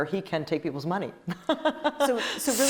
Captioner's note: laughing